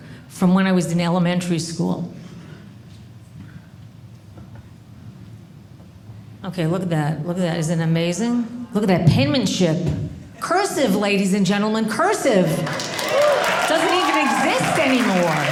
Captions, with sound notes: from when I was in elementary school. OK, look at that. Look at that. Isn't it amazing? Look at that penmanship. Cursive, ladies and gentlemen. Cursive. (audience cheering) Doesn't even exist anymore.